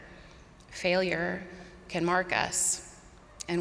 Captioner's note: none